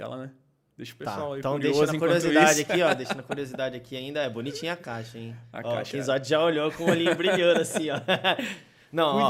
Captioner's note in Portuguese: risos